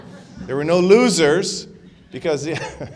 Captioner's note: laughter